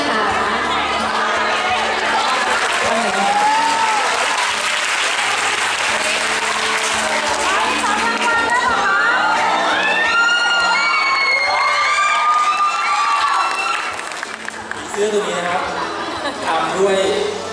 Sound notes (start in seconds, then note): 3.5 applaud; 9.6 scream